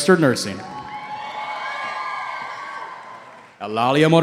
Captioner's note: cheering